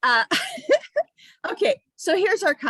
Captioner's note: chuckles